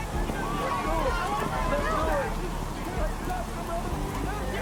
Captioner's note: cheering